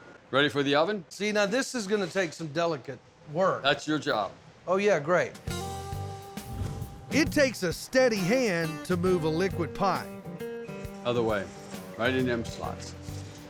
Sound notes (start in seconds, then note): none